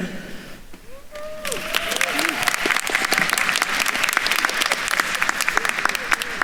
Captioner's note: attendees cheering and applauding